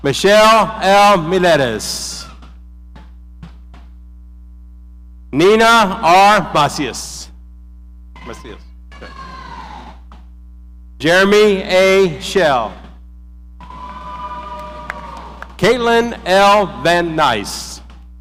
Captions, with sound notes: Michelle L. Hererez. Nina R. Basias. Jeremy A. Shell. (audience cheering) Caitlyn L. Van-Nice.